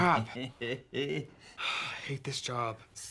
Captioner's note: Jewels laughs